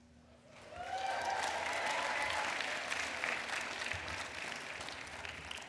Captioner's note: applause